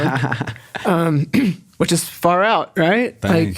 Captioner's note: laughs